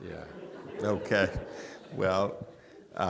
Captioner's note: audience laughing